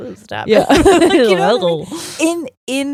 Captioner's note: both laughing